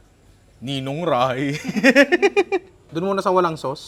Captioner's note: laughter